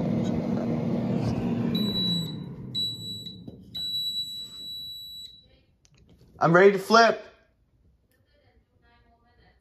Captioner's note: beeping